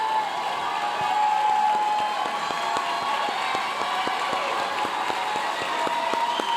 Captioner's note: audience continue cheering and applauding